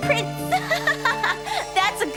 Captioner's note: laughing